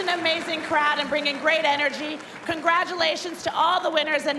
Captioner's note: cheers and applause